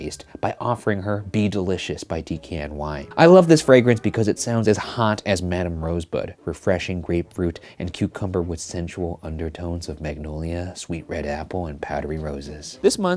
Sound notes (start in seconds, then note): none